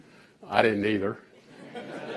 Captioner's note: laughter